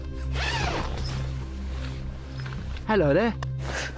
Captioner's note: tent zipping